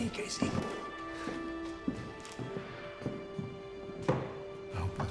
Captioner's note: casey's footsteps